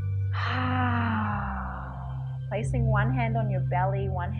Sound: sighs

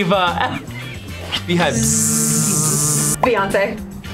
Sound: buzzing sound

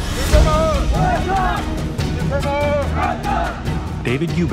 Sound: army chanting

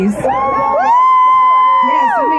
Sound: crowd cheering

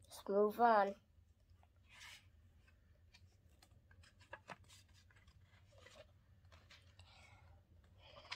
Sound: flipping the page

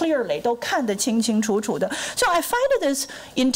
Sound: foreign language

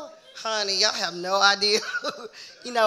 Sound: chuckles

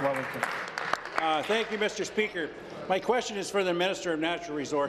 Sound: applause

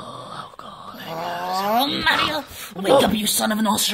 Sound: grumbles

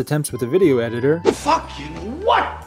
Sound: swoop

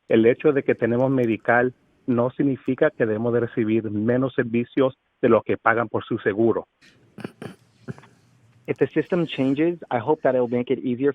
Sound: speaking spanish

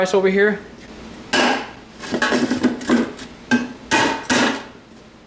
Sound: hammer bangs

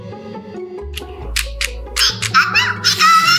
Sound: suspicious music; clicking

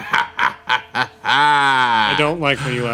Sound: Victor laughing

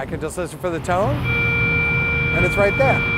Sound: long high tone

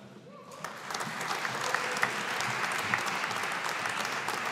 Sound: audience applauding

